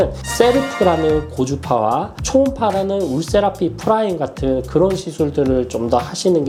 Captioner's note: high frequency